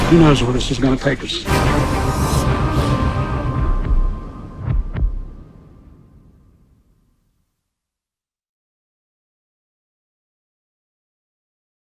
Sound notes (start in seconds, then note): 1.4 dramatic music; 3.9 low thumping